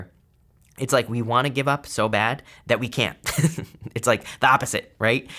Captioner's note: chuckles